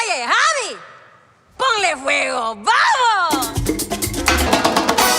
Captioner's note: speaking Spanish